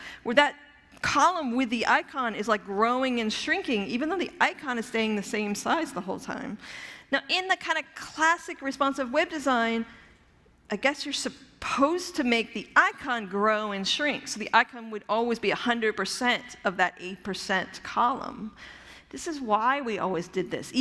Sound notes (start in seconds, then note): none